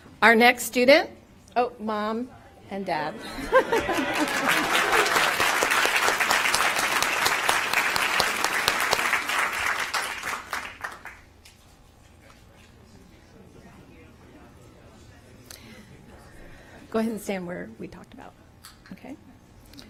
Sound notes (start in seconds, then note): 9.2 applause